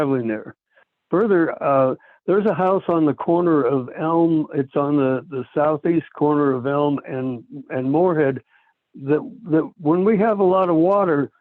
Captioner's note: by phone